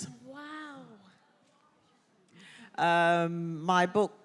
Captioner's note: audience murmuring